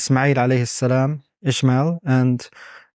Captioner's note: speaking Arabic